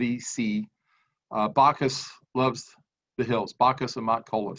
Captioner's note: speaks in foreign language